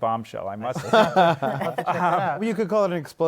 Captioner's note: laughter